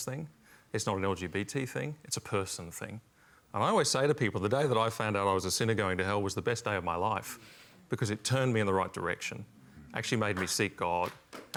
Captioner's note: applause